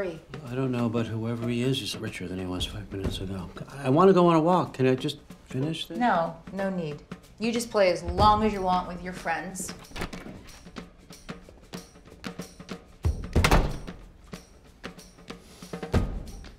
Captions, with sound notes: I don't know, but whoever he is, he's richer than he was five minutes ago. I want to go on a walk. Can I just finish this? No. No need. You just play as long as you want with your friends. [ Door closes ]